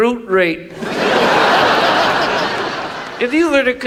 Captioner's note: audience laughs